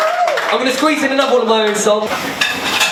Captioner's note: clapping